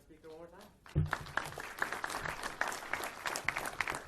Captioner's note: clapping